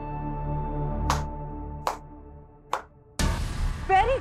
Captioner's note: claps